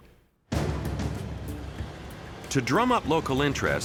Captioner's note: dramatic music; truck roaring